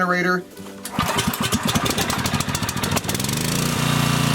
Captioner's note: generator roaring